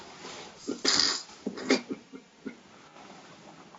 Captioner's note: crying